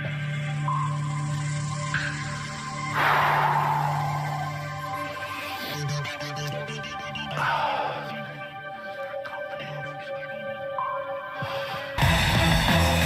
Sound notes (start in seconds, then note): 1.7 anxious breathing